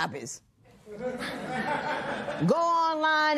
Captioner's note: laughter